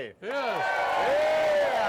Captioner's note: audience cheering